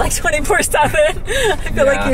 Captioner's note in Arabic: كريستال تضحك